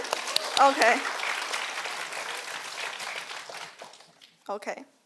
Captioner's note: audience applauding